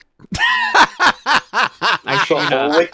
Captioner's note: laughing